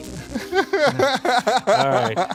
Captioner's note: laughs